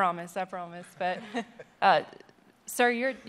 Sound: laughter

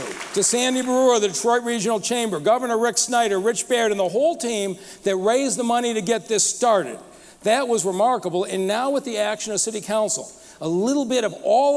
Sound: applause

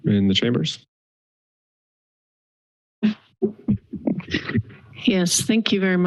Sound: silence

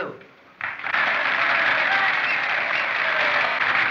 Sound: cheering

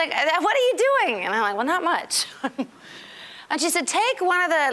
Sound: chuckling

